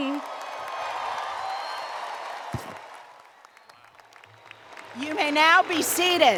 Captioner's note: applause